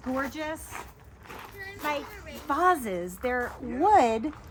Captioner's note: footsteps crunching